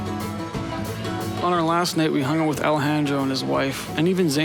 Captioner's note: speaking In Foreign Language